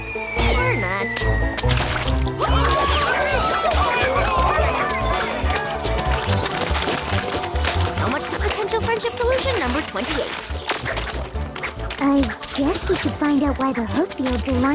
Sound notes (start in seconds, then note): 1.6 splat; 2.3 panicked shouts